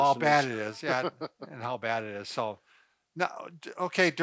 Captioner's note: chuckles